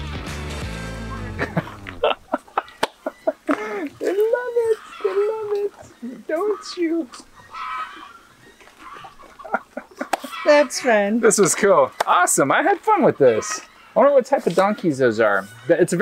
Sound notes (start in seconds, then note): 2.0 laughs; 8.7 laughs